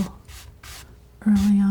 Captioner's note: scratching